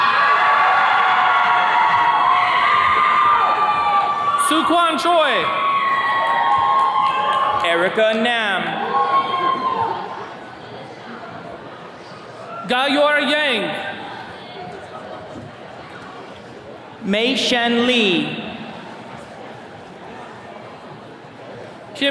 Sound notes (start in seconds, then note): 0.0 attendees cheering